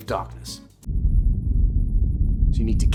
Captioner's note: rumbling sounds of darkness